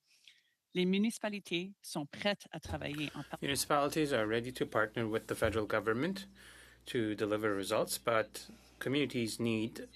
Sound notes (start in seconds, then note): 6.9 speaking French